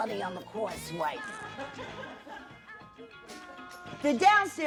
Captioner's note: laughter